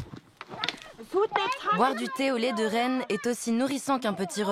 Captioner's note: foreign spoken audio